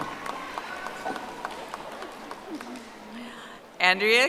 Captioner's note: audience applauding